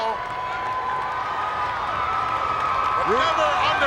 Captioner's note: crowd cheering